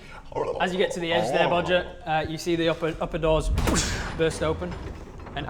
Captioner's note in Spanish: boosh